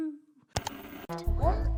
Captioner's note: scatting intensifies; static; ka-chunk